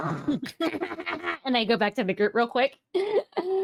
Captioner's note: players laughing